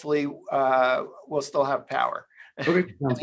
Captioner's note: chuckles